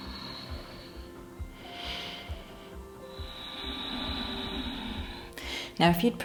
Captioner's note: inhaling and exhaling